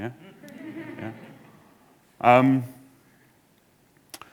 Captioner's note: audience laughing